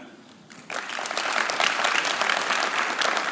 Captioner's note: claps